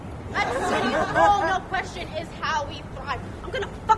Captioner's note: laughter